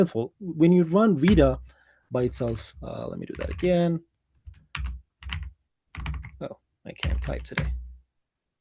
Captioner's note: keyboard clicking